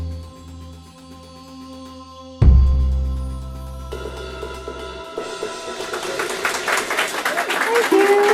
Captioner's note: applause